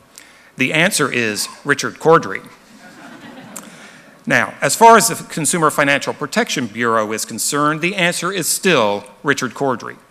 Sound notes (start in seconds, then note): 2.8 laughter